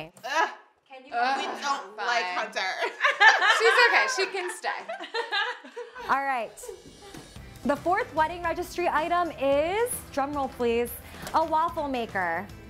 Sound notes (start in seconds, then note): 2.5 laughing